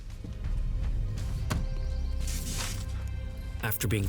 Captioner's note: car door closing